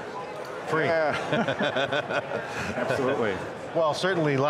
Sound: all laughing

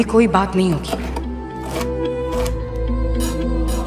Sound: knife scraping

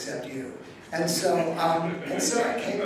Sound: audience laughing

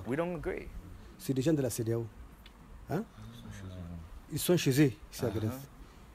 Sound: speaks in a foreign language

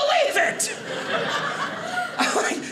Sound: audience laughing

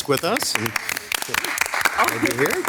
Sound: members clapping

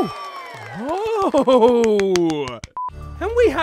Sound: clapping

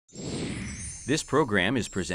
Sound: air whooshes

